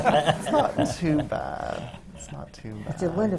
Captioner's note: laughter